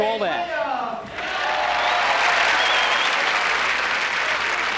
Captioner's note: cheering and applause